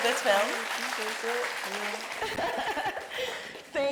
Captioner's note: audience applauding; Mireille laughing